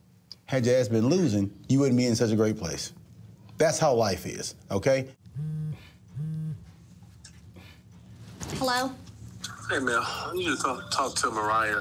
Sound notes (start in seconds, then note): 5.2 cell phone vibrating